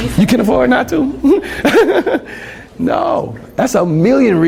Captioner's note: laughs